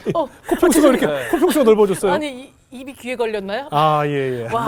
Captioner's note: laughing; laughing